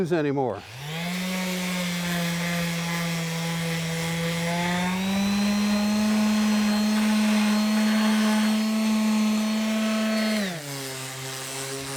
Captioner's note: machine buzzing